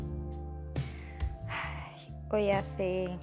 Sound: Andrea sighs

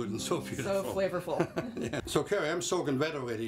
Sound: laughs

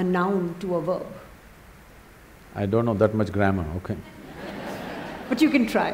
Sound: laughter

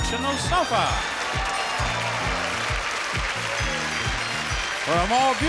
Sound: audience applauding

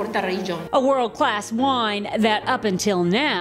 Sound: voiceover

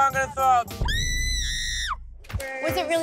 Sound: Snooki screaming

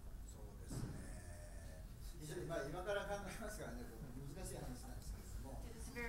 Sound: speaking in foreign language

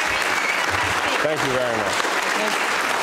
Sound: applause

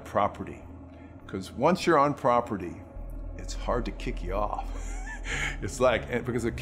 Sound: laughs

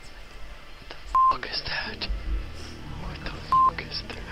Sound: beep; beep

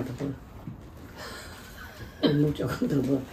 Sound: laughing

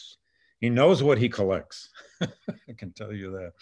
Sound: laughs

